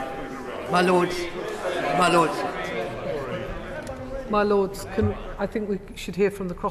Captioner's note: members chatter